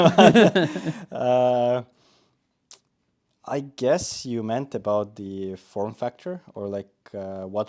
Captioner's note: both laughing